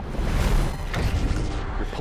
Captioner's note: crash